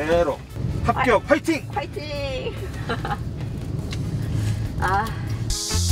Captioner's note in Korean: 웃음